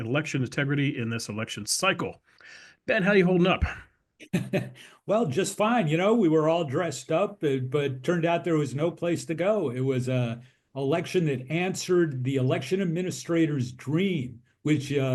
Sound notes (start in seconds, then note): 4.2 laugh